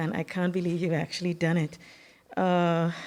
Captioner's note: none